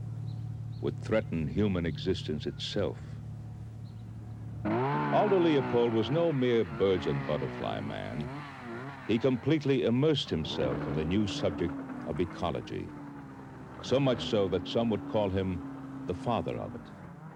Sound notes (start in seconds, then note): 4.6 chainsaw motor revving